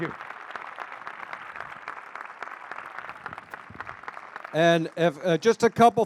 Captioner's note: applause